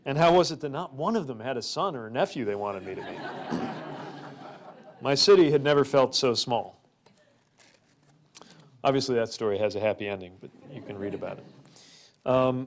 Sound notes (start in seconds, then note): 2.8 crowd laughter